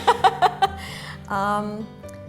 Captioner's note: laughter